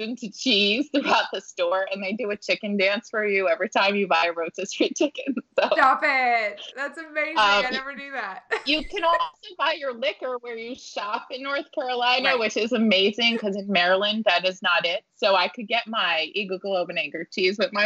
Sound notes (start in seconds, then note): 5.3 laughing